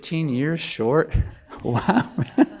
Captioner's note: laughs